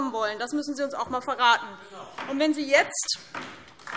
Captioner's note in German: Beifall DIE LINKE